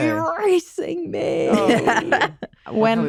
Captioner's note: laughter